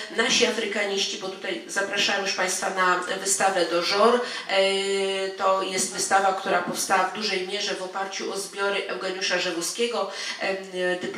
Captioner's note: speaking in foreign language